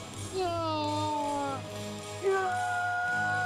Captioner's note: anguished shouting